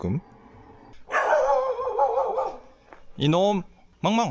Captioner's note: dog barking